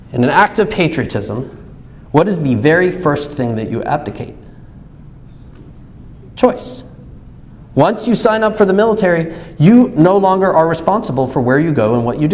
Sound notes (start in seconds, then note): none